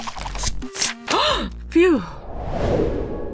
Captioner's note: gasp